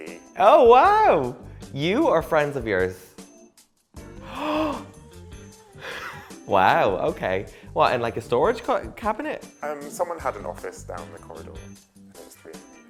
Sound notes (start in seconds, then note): 4.1 gasping